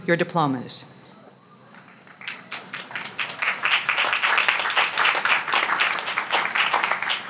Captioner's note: applause